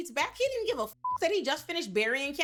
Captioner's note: beep